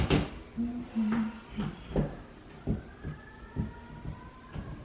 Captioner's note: hums softly